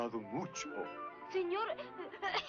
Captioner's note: cough cough